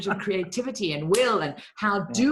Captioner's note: hands clapping